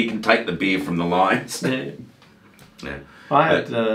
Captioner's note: chuckles